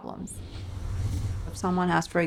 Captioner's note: whooshing